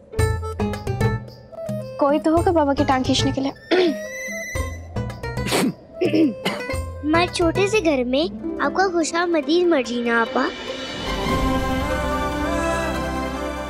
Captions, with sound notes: There will be someone to pull Baba's leg. Ahem. - [scoffs] - [clears throat and coughs] We welcome you to stay in our humble abode, Marjina. [sentimental music playing]